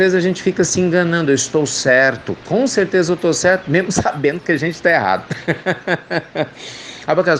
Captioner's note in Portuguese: Risos